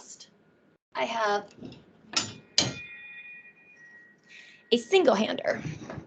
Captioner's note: clanging sounds